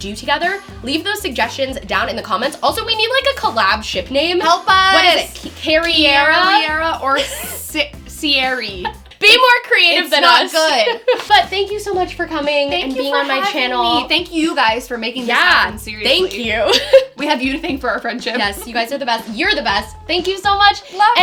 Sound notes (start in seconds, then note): 8.6 laughs